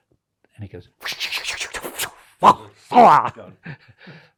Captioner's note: imitates paintbrush swishing and whacking